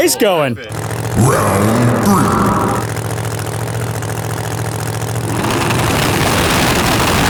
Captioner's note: engines fluttering; throttles growling